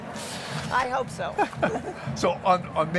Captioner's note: both chuckling